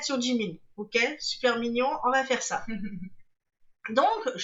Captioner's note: laughs